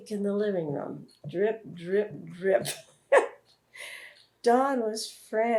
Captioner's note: laughs